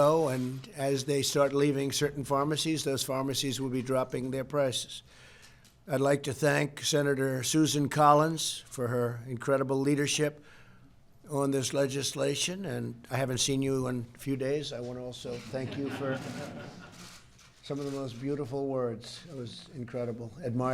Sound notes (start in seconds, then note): 15.4 laughter